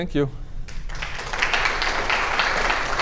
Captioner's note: applause